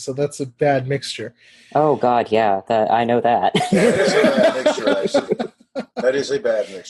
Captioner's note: laugh